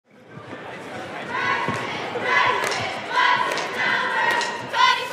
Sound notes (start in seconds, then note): 1.0 cheerleaders chanting